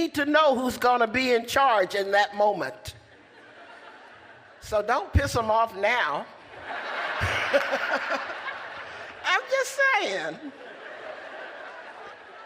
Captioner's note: laughter